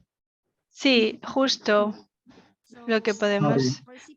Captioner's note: speaking in foreign language